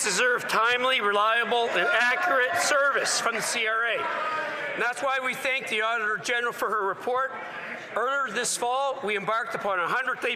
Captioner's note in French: voix de l'interprète